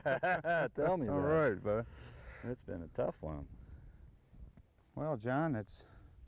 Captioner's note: laughter